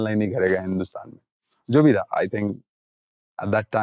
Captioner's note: in English